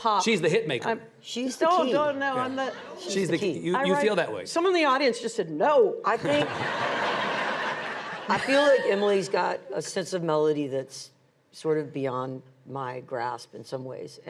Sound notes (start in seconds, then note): 6.2 audience laughing